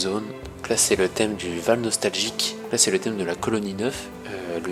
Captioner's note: in french